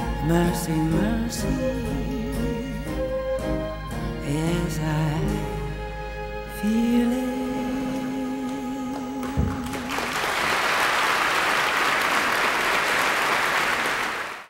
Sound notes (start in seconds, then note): 9.2 audience applauding